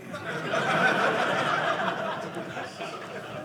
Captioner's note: audience laughing